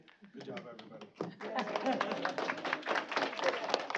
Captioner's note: applause